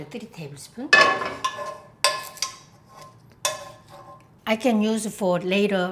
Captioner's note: pan clanging